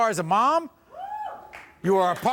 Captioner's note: audience cheering